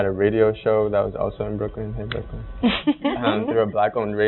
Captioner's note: laughing